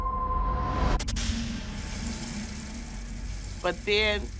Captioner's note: water trickling